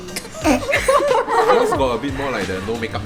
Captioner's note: laughs